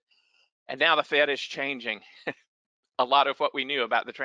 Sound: giggles

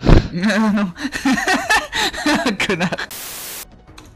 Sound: laughs

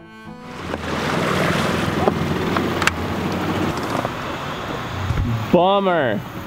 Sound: boat engine whirring; water splashing

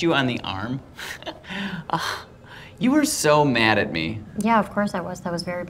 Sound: laughs

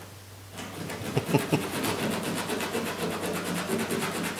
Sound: laughs

